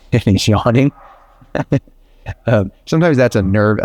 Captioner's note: chuckles